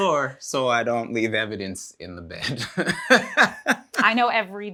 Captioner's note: laughs